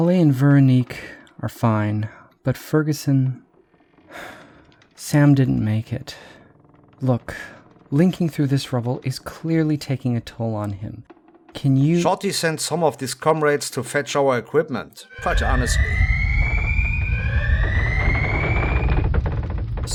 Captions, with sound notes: Holly and Véronique are fine. But Ferguson… [Sighing] Sam didn’t make it. Look. Linking through this rubble is clearly taking a toll on him. Can you— Shorty sent some of his comrades to fetch our equipment, [Tremor alert] But honestly—